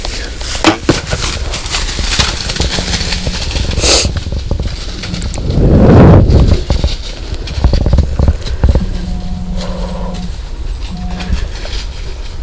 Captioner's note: sound of running; sound of bowshot